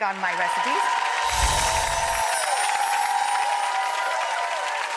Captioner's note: audience cheering